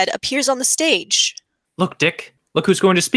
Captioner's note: crowd murmurs